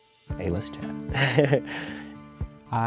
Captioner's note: chuckles